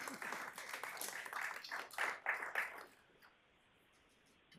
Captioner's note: applause